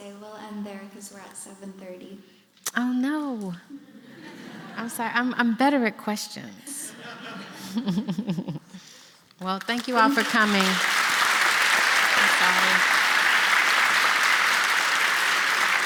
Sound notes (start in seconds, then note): 3.8 laughter; 6.8 laughter; 9.4 applause